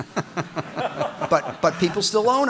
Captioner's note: audience laughing